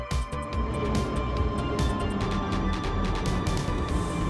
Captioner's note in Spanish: Sonido del metro, ya entrando a la última estación